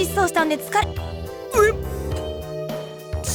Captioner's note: burp